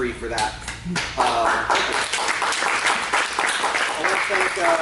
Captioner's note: applause